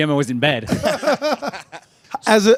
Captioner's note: all laughing